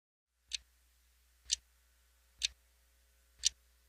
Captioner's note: clock ticking